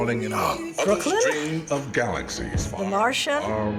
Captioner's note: voice-over